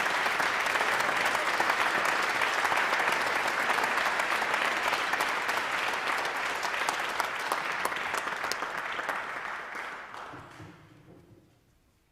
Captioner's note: applause